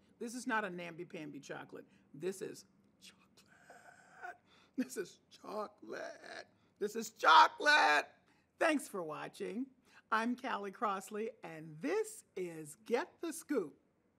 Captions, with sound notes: this is not a namby-pamby chocolate. This is chocolate. (whispering) This is chocolate. (voice cracking) This is chocolate! Thanks for watching. I'm Callie Crossley and this is, "Get the Scoop."